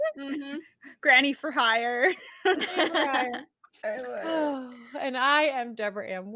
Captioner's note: all laughing